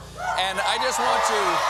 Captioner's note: cheers and applause